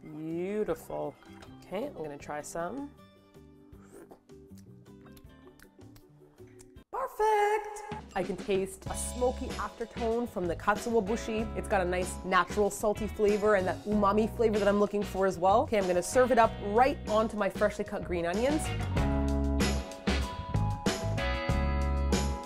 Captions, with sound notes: Bbbbbeautiful. Kay, I'm gonna try some. *sllllurp* ppERFFEEECT! I can taste a smoky after tone from the katsuobushi, it's got a nice, natural salty flavour and that umami flavour that I'm looking for as well. Okay, I'm gonna serve it up right onto my freshly cut green onions. *funky music*